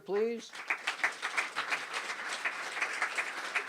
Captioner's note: applause